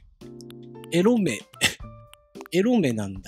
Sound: giggle

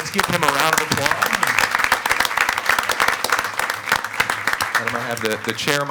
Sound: attendees applauding

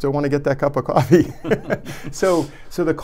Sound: laughing

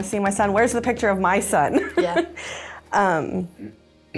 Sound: laughs

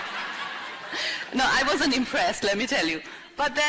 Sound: laughter

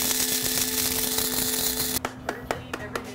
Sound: grinding

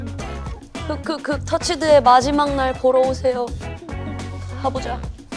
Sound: sob sob sob

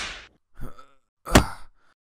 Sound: grunts

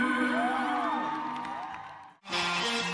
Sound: cheering

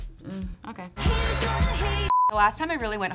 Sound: beep

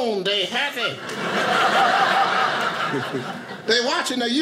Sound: audience laughing

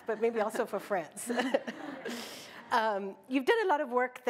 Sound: laughter

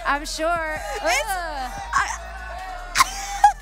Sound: audience groaning

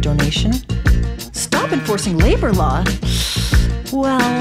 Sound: inhales

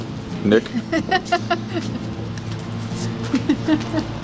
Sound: laughing

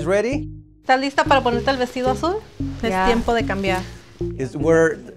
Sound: speaks in foreign language

